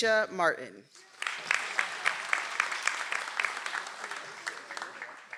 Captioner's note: audience applauds